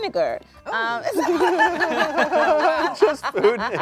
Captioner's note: everyone laughs